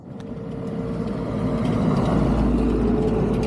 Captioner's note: traffic passing